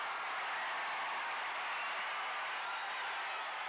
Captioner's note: crowd cheers